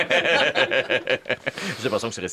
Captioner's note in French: rires